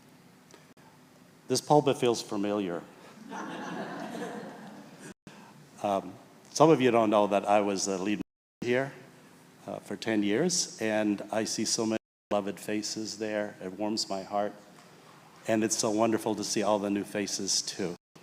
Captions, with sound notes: This pulpit feels familiar. (people laughing) Some of you don't know that I was a lead here for 10 years and I see so many beloved faces there. It warms my heart and it's so wonderful to see all the new faces too.